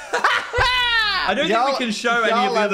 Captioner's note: hosts laugh